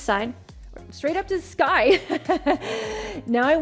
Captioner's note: chuckles